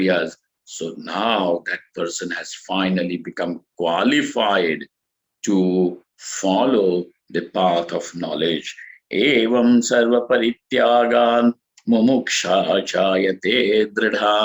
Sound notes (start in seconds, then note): 8.0 sanskrit